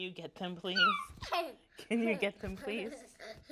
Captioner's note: laughs